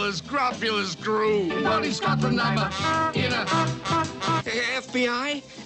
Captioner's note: honk; honk honk honk